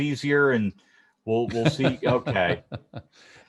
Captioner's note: laughs